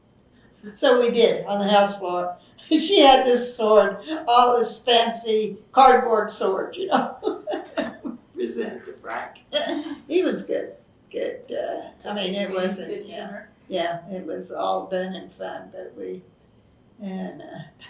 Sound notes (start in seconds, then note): 5.8 laughs